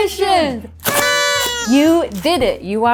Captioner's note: party noise maker squeaking